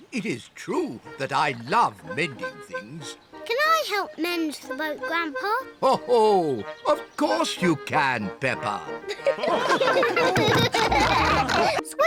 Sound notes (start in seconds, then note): 6.0 chuckles; 9.0 all laugh